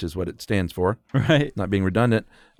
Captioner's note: chuckles